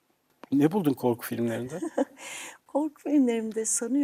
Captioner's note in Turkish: kahkaha